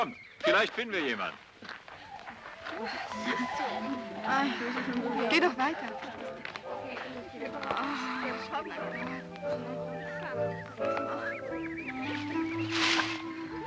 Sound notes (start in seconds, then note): 2.8 women laughing; 3.7 women talking